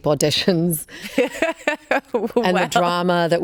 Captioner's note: Karolina laughs